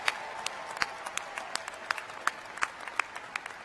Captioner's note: applause